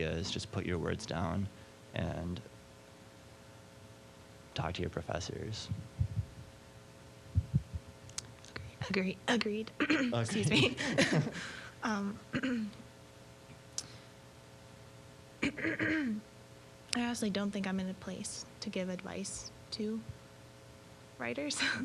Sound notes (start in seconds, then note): 9.8 clearing throat; 10.0 laughing; 15.4 clearing throat